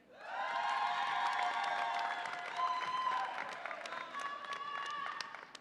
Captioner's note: audience applauds and cheers